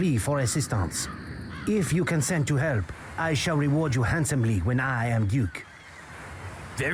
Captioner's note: actor speaks with... insistent... accent